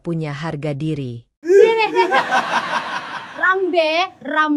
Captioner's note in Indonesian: tertawa